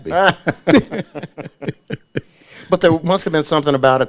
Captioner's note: laughing